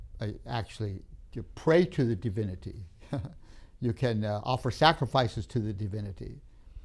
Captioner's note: laughs